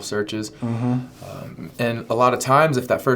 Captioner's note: hum of agreement